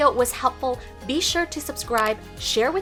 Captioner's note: mouse clicking